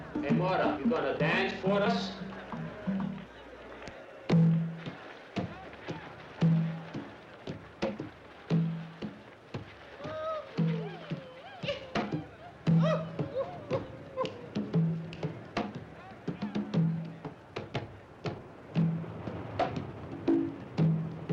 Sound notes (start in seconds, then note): 2.8 drum music; 9.8 men yipping; 15.3 drum music